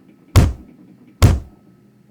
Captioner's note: thud